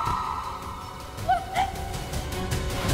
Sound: screaming; sobbing

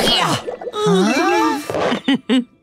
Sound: chuckling

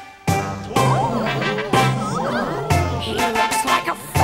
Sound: townspeople gasp

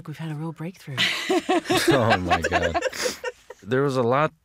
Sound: all laughing

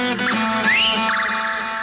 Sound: whistles

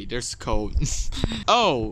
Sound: giggles

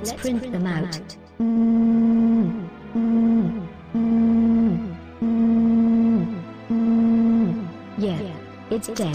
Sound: imitating printer sounds

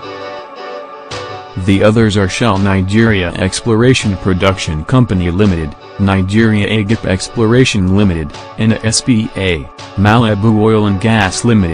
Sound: Italian

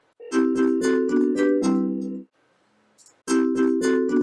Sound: beeping; ringtone chiming

